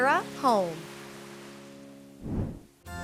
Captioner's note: whoosh